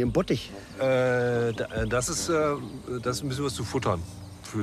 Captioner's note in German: stotternd